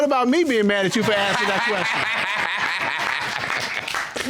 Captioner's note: all laugh